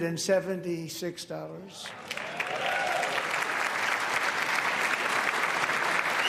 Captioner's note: applause